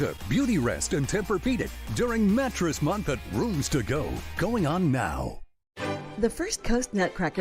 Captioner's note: none